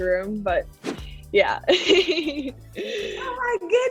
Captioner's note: scene whooshing; laughing